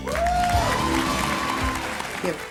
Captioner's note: audience applauds